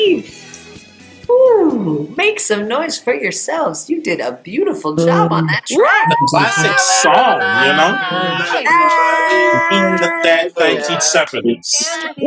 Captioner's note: applause